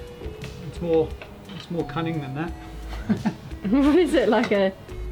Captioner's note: laughing